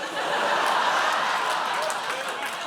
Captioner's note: audience laughs